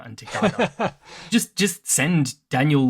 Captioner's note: laughs